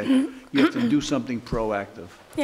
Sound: clear throat

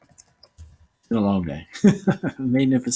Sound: laughing

